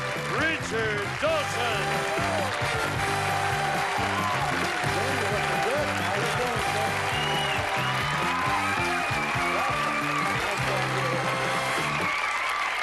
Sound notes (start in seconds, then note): 2.6 cheering